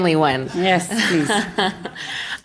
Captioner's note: laughter